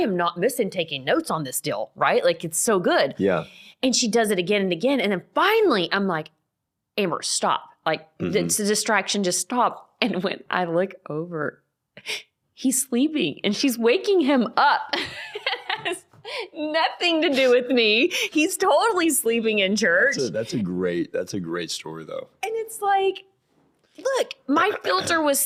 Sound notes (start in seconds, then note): 14.9 laughing